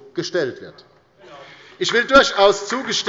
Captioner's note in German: Beifall bei der LINKEN